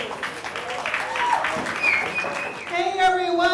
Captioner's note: cheers and applause